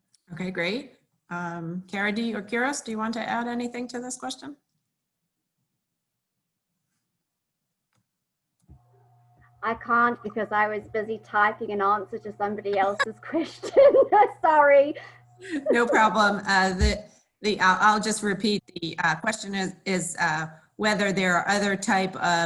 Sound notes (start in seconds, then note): 12.7 laughing